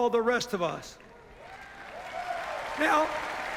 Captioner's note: cheers, applause